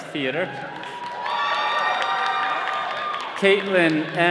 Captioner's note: all cheering